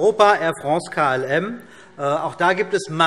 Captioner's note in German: none